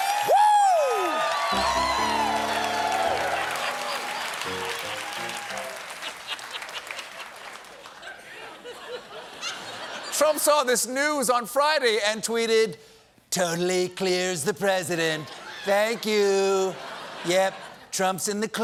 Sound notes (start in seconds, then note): 1.5 piano riff; 2.9 cheers and applause